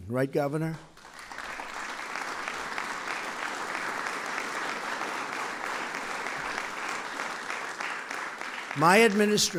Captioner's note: applause